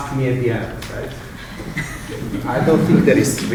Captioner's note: laughter